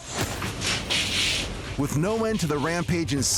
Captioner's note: metal creaking